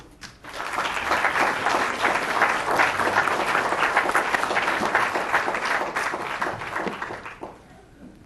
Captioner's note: applause